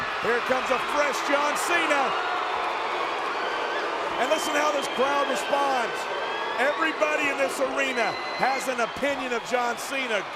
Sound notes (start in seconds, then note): 2.7 audience cheering